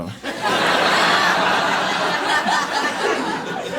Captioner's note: audience laughing